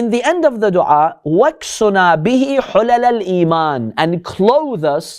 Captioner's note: Arabic